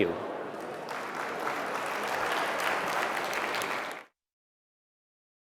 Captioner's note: applause